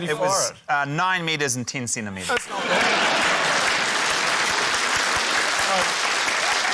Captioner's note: cheering, applause